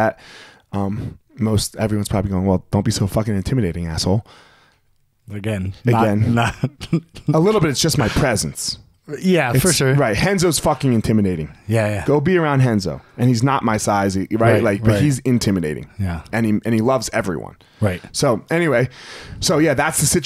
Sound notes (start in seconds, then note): 5.4 laughing